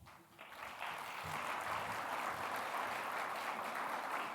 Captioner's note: audience applauds